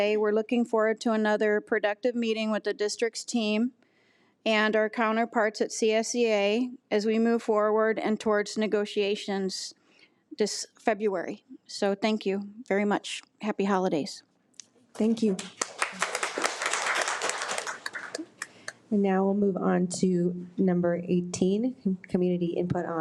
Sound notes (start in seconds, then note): 15.4 audience applause